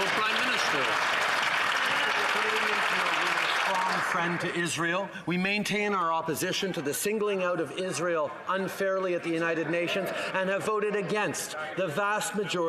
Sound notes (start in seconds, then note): 0.0 some Applause